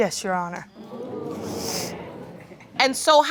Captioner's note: audience groans